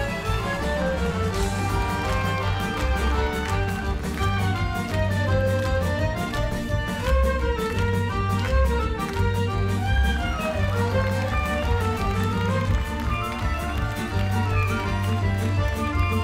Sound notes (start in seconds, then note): 0.0 dancers clap; 0.3 crowd cheers; 9.7 crowd cheers and claps; 12.5 ukrainian folk music